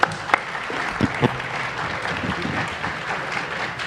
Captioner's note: applause